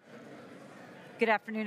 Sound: crowd chattering

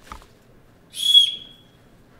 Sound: whistle blows

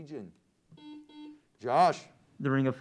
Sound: buzzer sounds

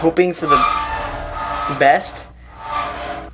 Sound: metal scraping

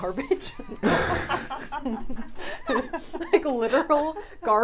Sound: all laughing

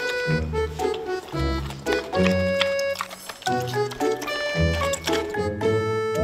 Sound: chomp

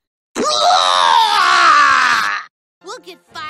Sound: fake vomiting

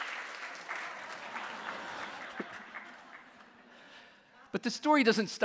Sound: audience laughing

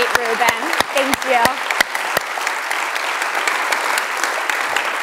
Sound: applause

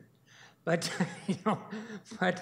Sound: chuckles

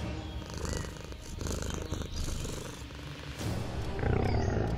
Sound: tiger cubs purring

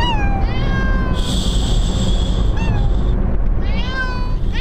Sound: cats meow

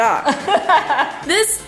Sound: laughing

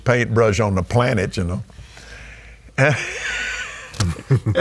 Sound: laughing

